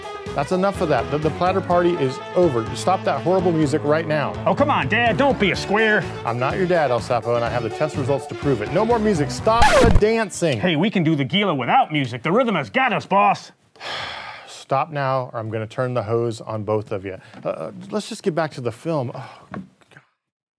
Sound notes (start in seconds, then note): 9.5 record scratching; 13.8 sighing